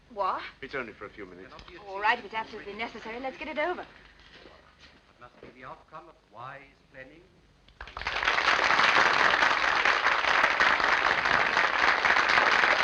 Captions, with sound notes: - It's only for a few minutes. - If it's necessary, let's get it over. [ man speaking ] [ applause ]